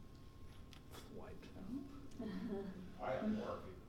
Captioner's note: laughing